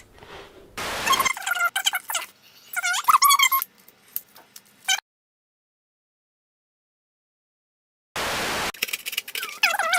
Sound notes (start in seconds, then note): 0.9 tape rewinding; 8.2 static; 9.7 tape rewinding